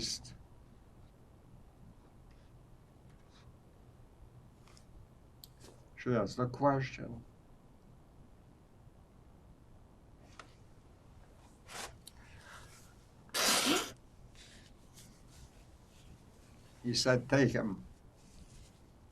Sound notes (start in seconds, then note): 7.0 pauses 6 seconds; 13.3 wiping nose